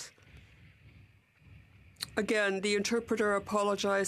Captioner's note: speaking French